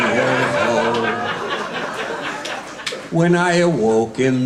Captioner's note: audience laughing